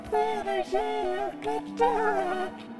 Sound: giggles nervously

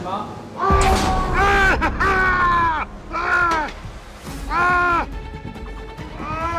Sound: screams

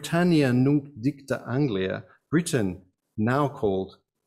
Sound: speaks in foreign language

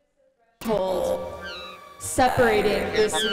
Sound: electronic sounds resume

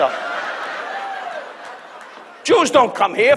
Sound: audience laughs

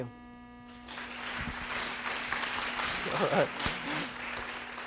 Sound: audience clapping

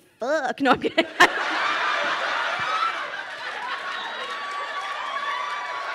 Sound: crowd laughing and cheering

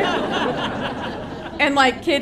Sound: audience laughing

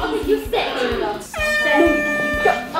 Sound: air horn blows

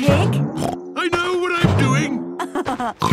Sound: snorts; laughs

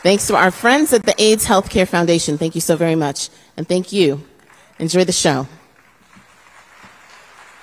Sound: cheers and applause

